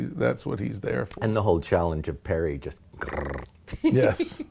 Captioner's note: purring